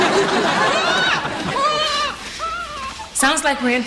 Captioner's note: baby crying